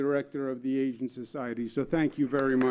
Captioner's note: applause